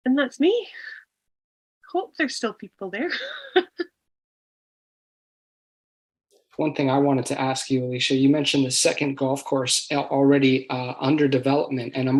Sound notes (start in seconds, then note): 3.0 laughs